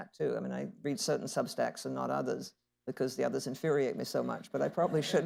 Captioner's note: laughter